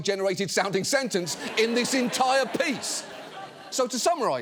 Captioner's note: audience laughs